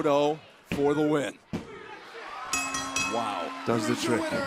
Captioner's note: bell ringing